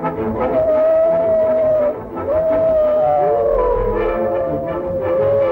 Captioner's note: howling